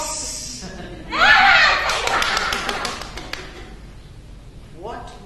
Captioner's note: Uma laughs and claps